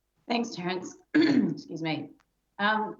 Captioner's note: clears throat